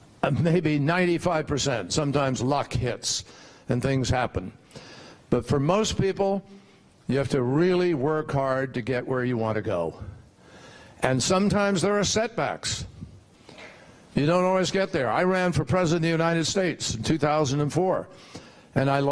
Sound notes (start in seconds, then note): none